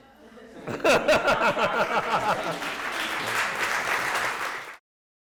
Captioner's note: laughter and applause